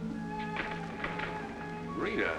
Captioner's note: door closing